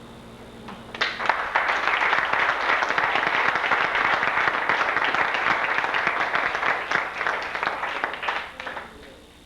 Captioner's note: applause